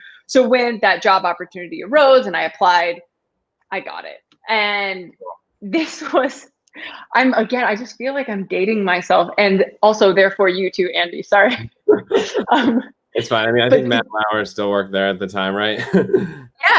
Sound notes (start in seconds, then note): 11.5 laughter